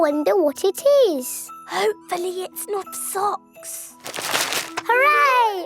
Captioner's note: whispering